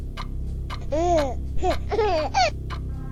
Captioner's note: baby Chris coos